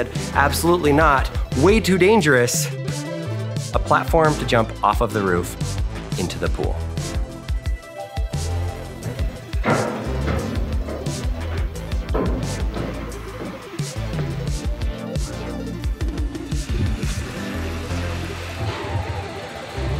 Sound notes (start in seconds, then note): 8.8 feet thudding; 9.0 upbeat music